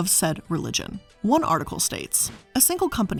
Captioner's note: air whooshing